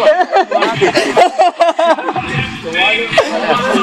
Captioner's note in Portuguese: risos